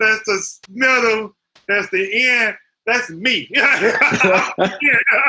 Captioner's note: laughter